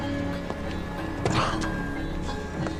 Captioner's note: coughs